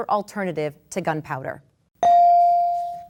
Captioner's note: bell dings